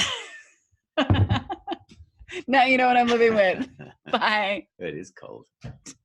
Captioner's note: laughing